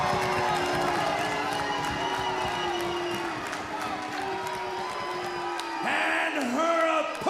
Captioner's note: crowd cheers